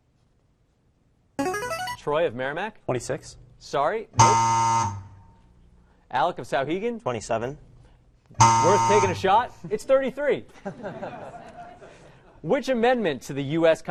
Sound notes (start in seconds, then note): 0.4 player buzzer; 4.2 error buzzer; 8.4 error buzzer; 10.5 laughter